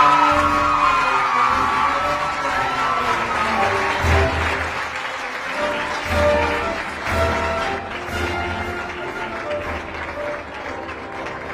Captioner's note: applause